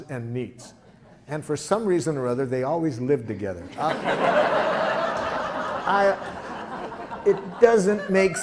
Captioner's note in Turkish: Gülüşmeler